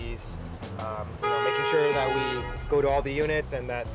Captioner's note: car honks